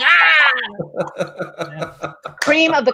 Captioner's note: laughs